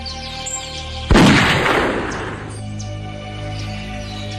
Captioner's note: gun firing